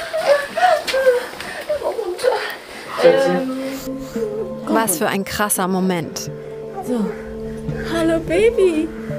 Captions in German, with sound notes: (mit schwacher Stimme:) Runter. Was für ein krasser Moment. Hallo, Baby!